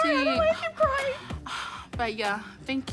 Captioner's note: sighs